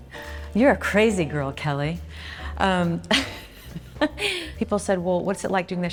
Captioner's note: laughs